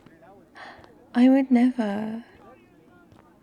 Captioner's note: gasp